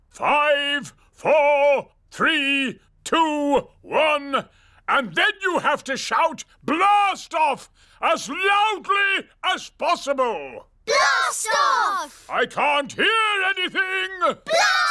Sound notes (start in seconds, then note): none